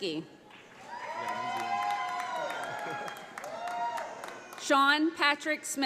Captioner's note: audience applauds